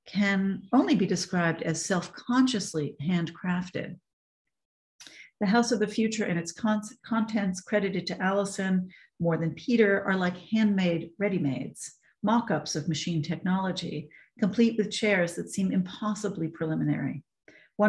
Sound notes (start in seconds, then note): none